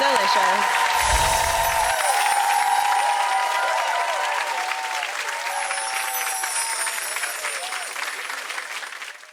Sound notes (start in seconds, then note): 1.6 applause